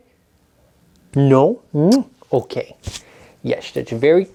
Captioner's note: kisses